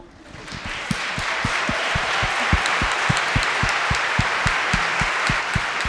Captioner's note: audience cheering and applauding